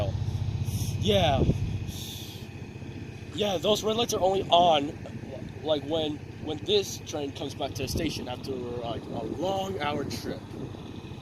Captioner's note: inhales